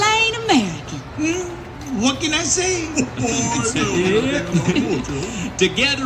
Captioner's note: laughter